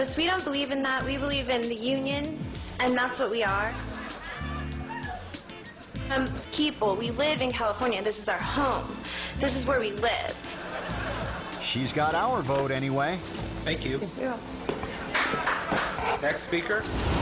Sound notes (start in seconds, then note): 3.5 audience laughing; 3.9 upbeat music; 10.2 audience laughing; 15.1 people clapping; 16.8 logo swooshing